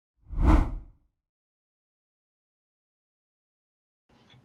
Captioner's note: rough whooshing